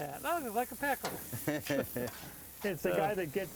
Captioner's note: laughing